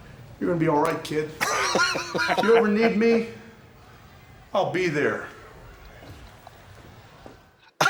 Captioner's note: laugh